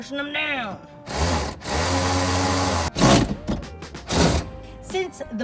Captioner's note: tool drills